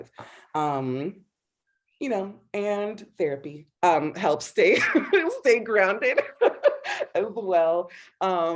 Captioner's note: laughing